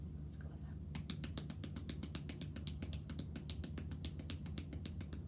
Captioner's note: hands tapping